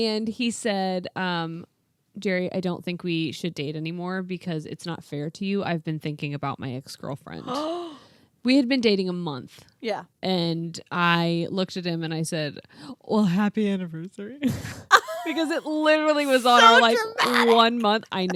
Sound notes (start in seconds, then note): 7.4 gasps